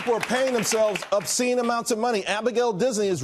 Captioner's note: applause